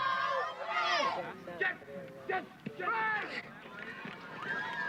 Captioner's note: football players yelling; crowd cheers